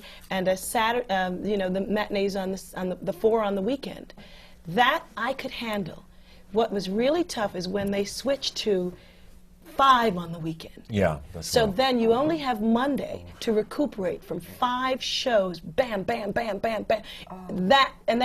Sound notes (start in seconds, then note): none